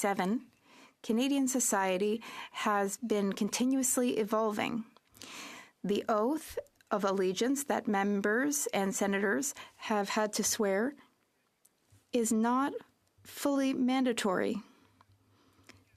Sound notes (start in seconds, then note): 3.7 speaking French